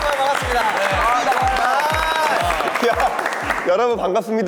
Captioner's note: clap